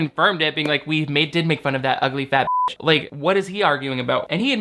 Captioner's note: beep